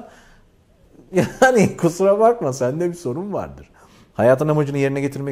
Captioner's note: laughs and laughter